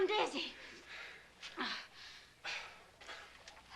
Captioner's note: both panting